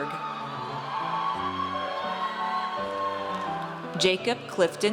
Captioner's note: audience cheers